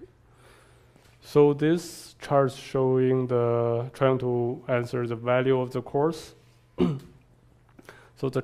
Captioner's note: cough